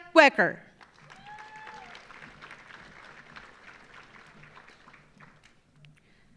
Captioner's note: audience applauding; audience cheering